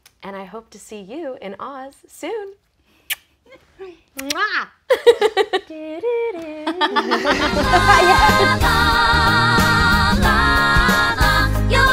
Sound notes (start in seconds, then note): 3.0 smack; 4.9 laughing